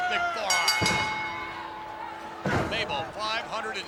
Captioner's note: bell dinging